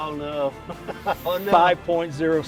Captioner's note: laughing